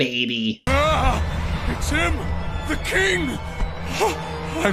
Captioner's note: gasps